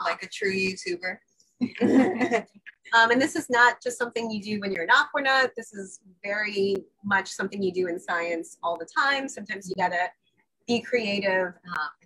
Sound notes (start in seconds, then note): 1.6 laughs